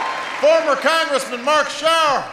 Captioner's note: applause